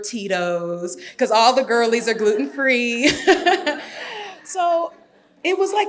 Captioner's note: laughs